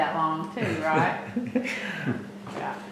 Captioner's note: laughter